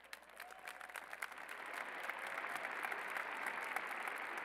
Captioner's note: applause